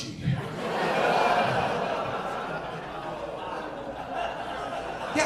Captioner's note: audience laughing